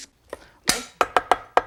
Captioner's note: knife tapping rhythmically on bench